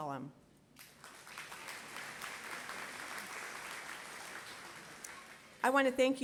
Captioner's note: applause